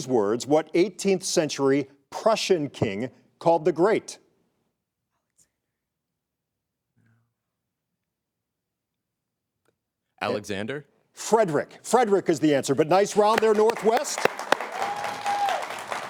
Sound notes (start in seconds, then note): 5.1 contestants whisper; 12.8 audience applauds; 14.5 audience cheers